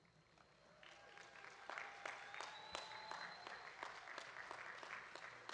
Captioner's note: audience applauding